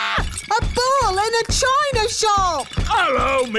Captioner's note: screams; thumping